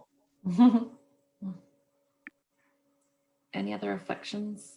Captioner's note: chuckles